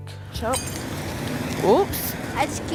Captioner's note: glass bottle breaking